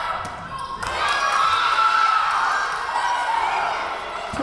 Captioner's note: Tigers cheering